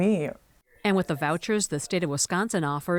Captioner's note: voice-over